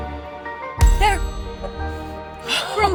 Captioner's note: metal jingling; Olivia gasping